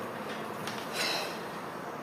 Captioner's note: PENG exhales